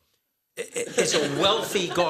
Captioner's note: laughter